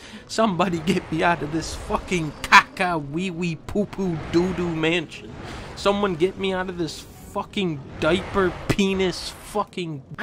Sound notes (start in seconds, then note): none